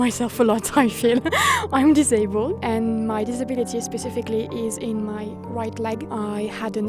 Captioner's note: laughs